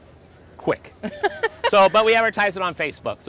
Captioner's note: laughs